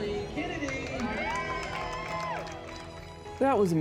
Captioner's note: cheering